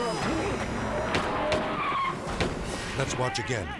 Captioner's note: gun bangs